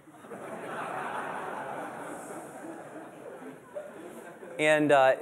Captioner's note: laughter